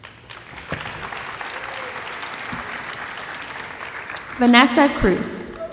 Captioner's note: audience applauding